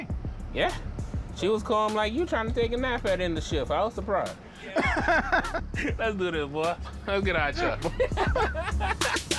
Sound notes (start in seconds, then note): 4.5 laughs; 7.5 laughter